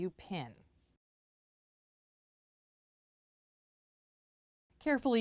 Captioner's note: no Sound Present